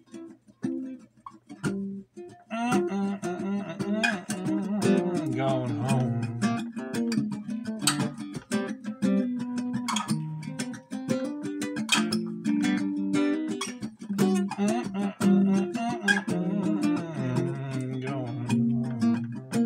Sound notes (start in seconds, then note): 2.5 humming